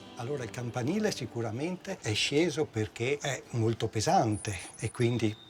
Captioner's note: speaking in foreign language